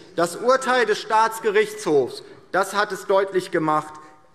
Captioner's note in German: none